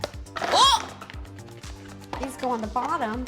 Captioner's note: yells in surprise